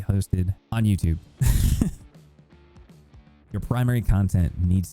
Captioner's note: laughs